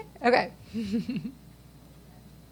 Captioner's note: chuckles